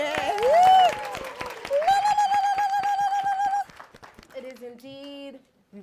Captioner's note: cheers and applause